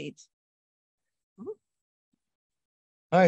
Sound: pause

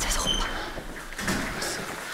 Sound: whispering

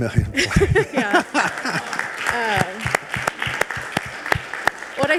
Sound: audience applauding

